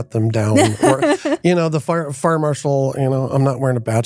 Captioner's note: laughing